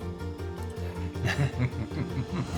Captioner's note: both chuckling